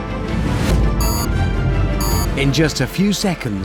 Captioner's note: beep, beep